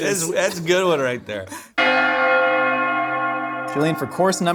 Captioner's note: bells Ringing